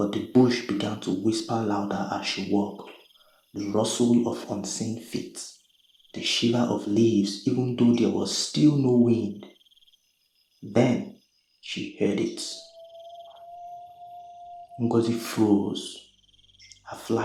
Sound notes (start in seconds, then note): 12.2 whistle